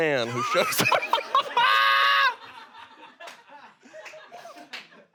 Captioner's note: everyone laughs